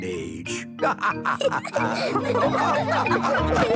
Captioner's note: all laughing